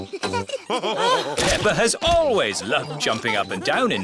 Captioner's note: all laughing